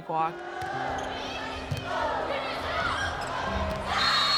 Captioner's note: cheering; whistle blows